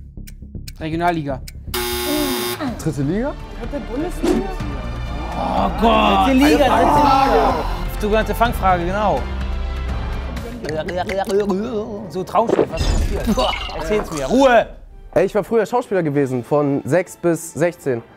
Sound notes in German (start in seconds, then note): 9.6 Dramatische Musik; 10.4 Ekelgeräusche